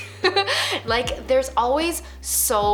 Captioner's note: laughing